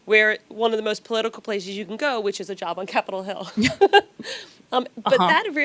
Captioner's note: laughs